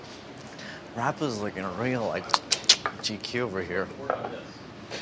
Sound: clicks tongue

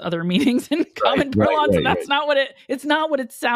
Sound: laugh

